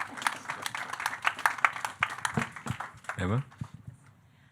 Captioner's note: audience clapping